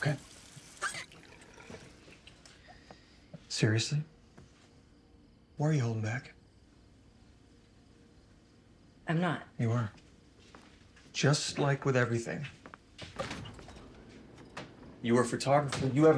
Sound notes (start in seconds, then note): none